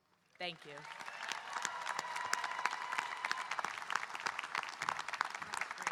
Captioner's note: audience applauding and cheering